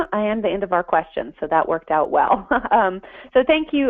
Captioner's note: laughter